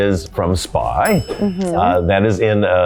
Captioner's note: bell dings